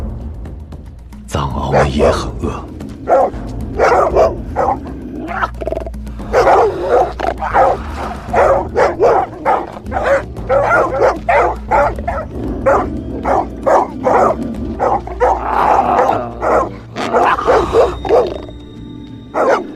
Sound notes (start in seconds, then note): 3.0 dogs barking and growls of a snow leopard; 12.0 dogs continue barking